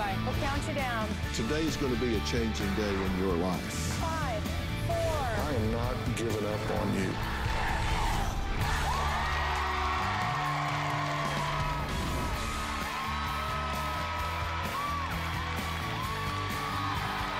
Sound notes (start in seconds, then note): 9.5 crowd chanting "dr. phil!"; 12.2 cheering and applause